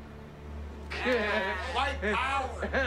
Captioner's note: laughs